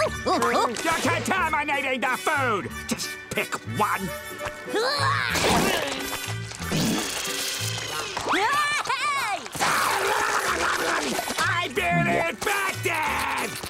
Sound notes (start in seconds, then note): 5.1 sneezing; 7.8 laughing